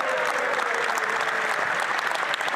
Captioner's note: applause